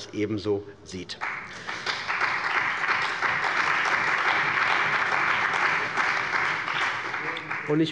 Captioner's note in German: Beifall bei der CDU und dem BÜNDNIS 90/DIE GRÜNEN